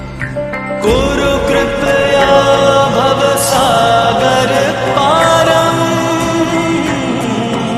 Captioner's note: chanting